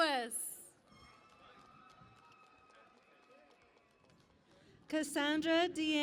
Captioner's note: cheering and Applause